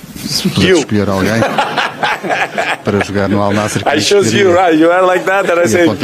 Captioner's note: laughs